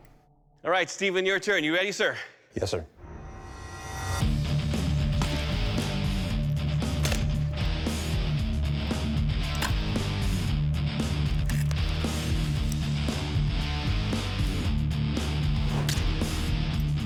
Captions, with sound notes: All right, Steven, your turn. You ready, sir? Yes, sir. [rock music] [blade impacts]